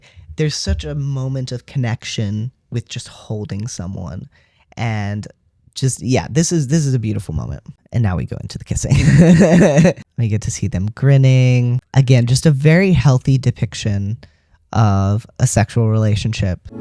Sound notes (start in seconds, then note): 9.0 laugh